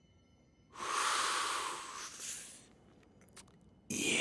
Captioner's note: inhaling deeply